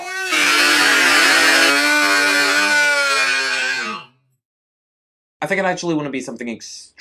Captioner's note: marshmallow screams